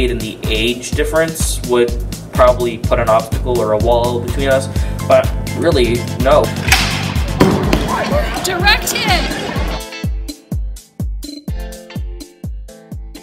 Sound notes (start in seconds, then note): 6.6 object launching; 10.4 upbeat music